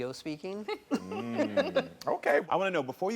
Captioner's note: laughs